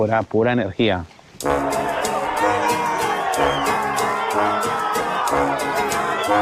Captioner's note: crowd cheering